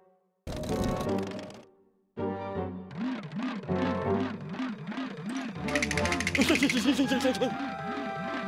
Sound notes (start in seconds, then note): 6.6 nervous stammering